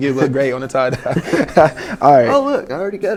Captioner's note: laughing